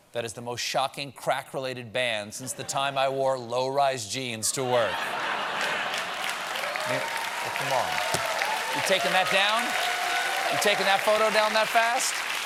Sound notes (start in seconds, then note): 5.6 applause